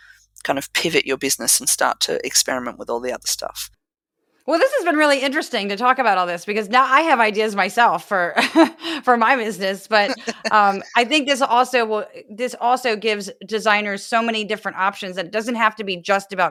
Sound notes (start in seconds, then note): 10.0 laugh